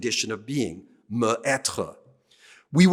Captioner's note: speaking french